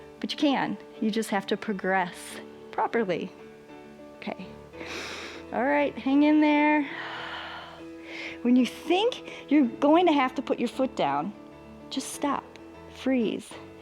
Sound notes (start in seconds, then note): 4.8 inhales; 7.6 exhales